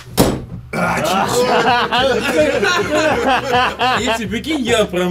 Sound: laughing

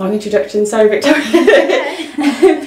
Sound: laughter

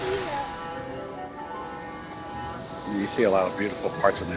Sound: model train horn

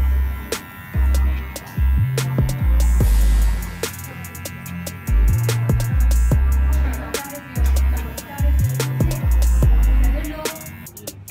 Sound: clippers Buzzing

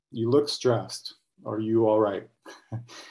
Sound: brief laughter

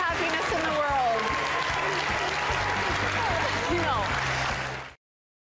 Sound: applause

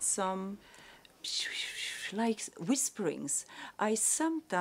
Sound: whispering noises

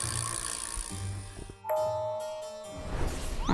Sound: dinging

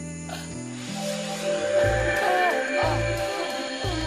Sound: magic glimmers

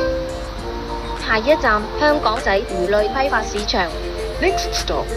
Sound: Cantonese

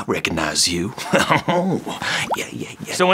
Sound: snort laughs

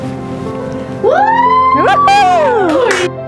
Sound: audience cheers

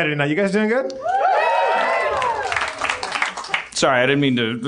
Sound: cheers

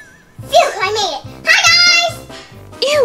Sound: assistant gasping

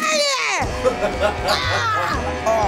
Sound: laughing

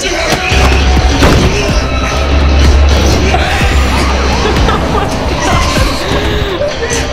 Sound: police sirens

